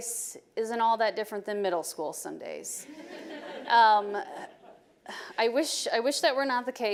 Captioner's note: audience laughing